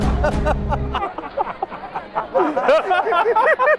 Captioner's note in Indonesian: tertawa